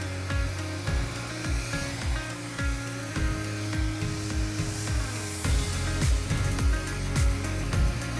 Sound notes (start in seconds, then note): 2.1 gadget whirring continues; 2.1 pleasant music continues